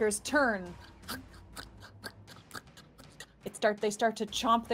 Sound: chomps

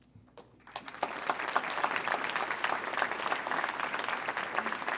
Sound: audience applauds

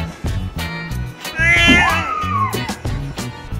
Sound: ginger Cat Yowls

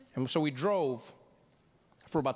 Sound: none

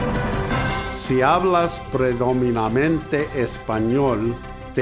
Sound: in foreign language

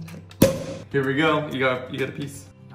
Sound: cork popping

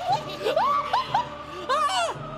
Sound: screaming

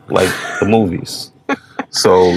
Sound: laughing

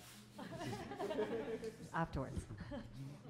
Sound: audience laughing

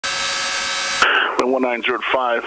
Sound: plane engine buzzing

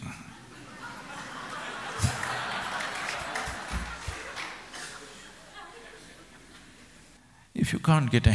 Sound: laughter/Applause

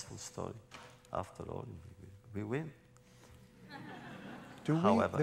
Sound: laughter

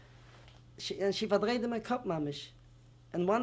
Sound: non-english

